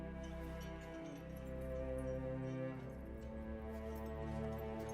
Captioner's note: keys jingling